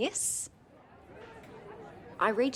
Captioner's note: crowd chatter